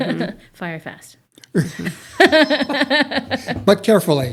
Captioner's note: laughs